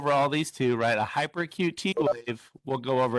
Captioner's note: tone beeping